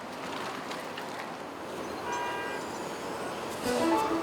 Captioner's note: horn honks; lively music